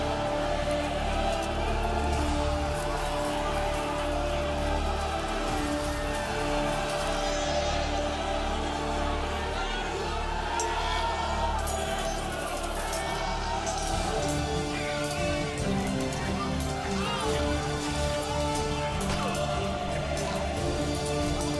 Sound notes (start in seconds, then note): 9.3 all shouting; 11.4 swords clanging, men fighting